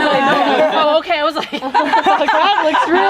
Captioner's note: group laughing; group laughs